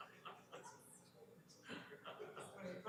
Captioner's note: laughter